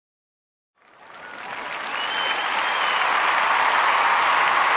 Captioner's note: applause